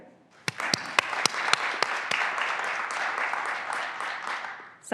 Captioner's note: graduands applauding